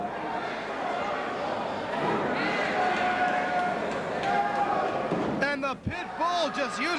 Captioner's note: crowd chatter